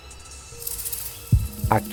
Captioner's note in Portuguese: Chocalho distante; Coração batendo